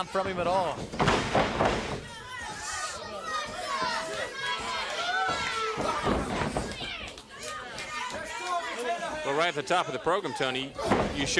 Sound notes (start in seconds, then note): 3.9 crowd chatter